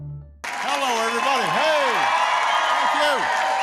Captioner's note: applause